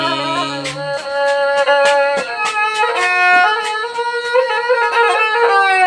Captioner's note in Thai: ปรบมือ